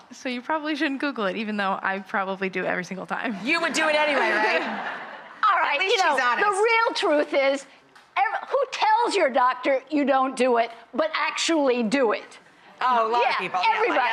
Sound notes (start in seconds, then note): 3.8 audience laughs